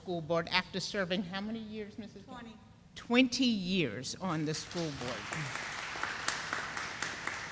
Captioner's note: sound of applause